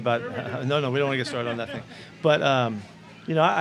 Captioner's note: interviewer laughs